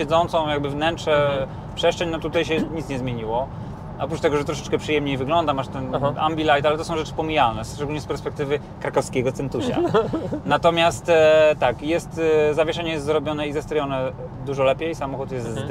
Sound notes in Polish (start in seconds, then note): 9.6 śmiech